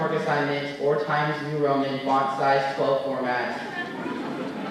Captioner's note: laughter